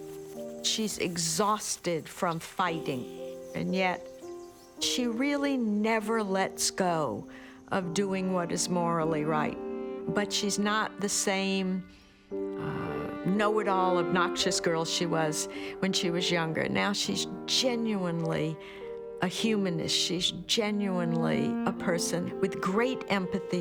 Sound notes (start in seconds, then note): none